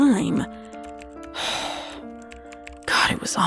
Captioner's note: sigh